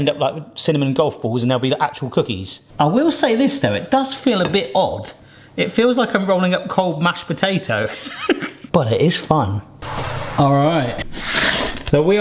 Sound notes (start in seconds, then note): 7.8 laughs